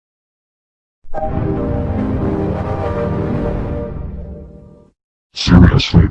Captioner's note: 3D Shadow Windows XP Startup Sound